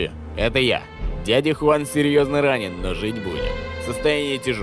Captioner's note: on phone